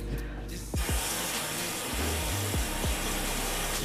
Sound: runs water

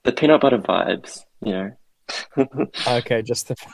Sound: laughs

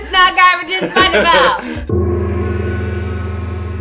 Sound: gong!

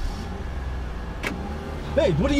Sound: car Engine Turns On

